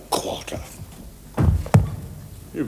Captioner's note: book closes